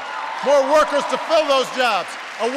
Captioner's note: applause